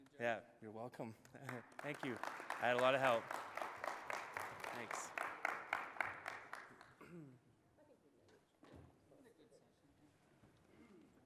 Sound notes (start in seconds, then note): 0.0 voiceover; 5.0 applause